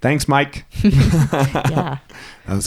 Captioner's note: both laugh